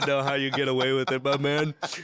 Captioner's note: laughter